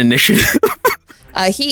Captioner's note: laughs